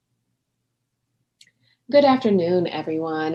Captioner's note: speaking spanish